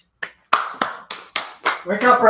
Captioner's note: claps